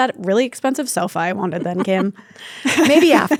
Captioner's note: chuckles; laughs